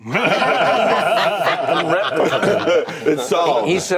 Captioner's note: laughter